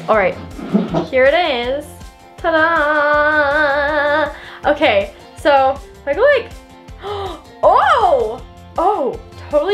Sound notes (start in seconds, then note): 6.9 gasping